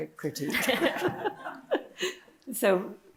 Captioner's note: audience laughing